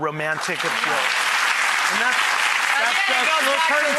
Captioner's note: audience applauds